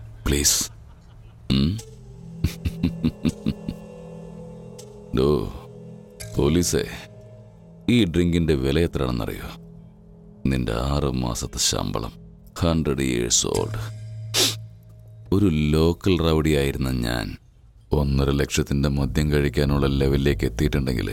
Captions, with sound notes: Please... [Babji laughs] do you have any idea how much this drink cost? It costs your six months' salary 100 years old... A normal, local thug... has grown rich and powerful enough to afford a 1.5 lakhs worth drink